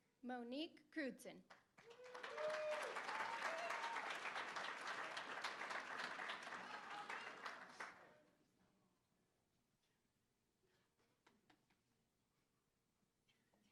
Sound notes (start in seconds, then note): 1.4 applause; 1.8 cheering